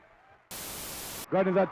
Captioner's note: static crackling